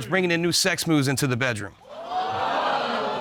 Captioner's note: audience exclaiming